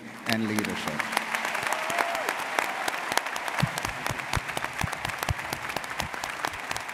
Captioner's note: audience cheering and applauding